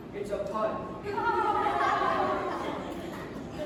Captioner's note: awkward laughter from court